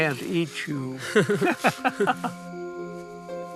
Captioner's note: laughter